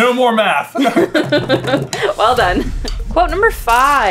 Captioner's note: laughter